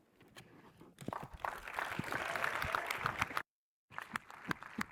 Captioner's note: audience applauds